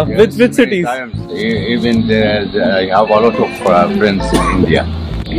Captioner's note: Forieng language